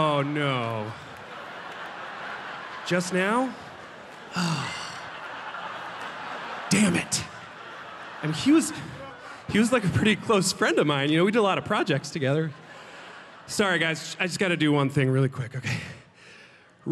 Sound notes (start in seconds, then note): 4.3 sighing